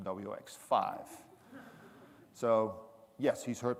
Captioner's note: audience laughing